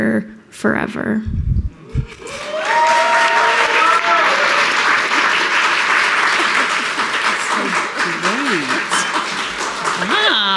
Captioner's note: audience applauding